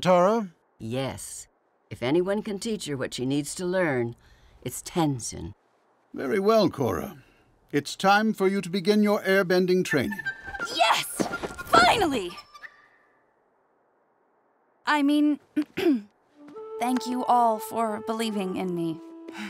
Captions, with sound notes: Yes. If anyone can teach her what she needs to learn, it's Tenzin. Very well, Korra, it's time for you to begin your airbending training. Yes, finally. I mean... [clearing throat] thank you all for believing in me.